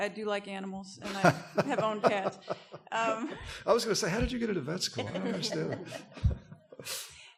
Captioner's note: laughs